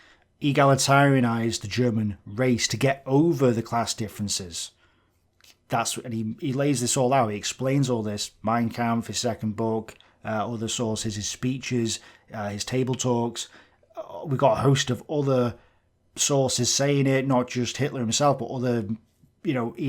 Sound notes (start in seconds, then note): none